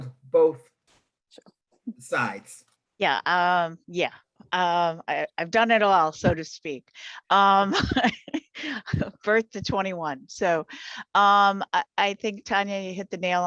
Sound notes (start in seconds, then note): 7.7 laughing